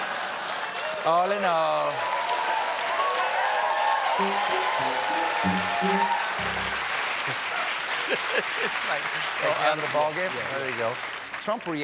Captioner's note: applause; laughter